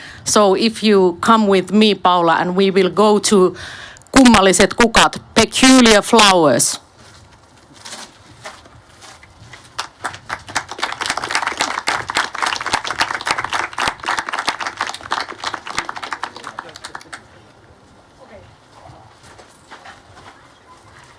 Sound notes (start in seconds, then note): 9.7 aplodeja